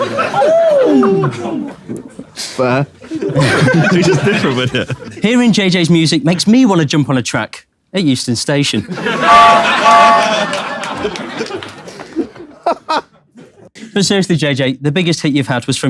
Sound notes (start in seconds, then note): 0.1 people in room laughing; 8.8 people in room laughing; 10.1 train whistle noise; 12.6 KSI laughs